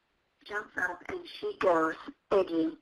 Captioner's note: voiceover